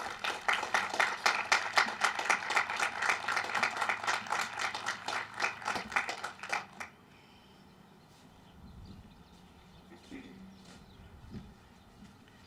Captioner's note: applause